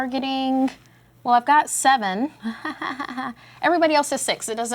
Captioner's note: chuckles